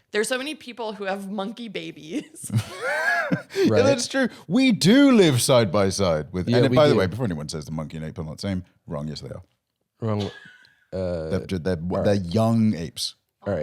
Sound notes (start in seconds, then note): 2.5 laughs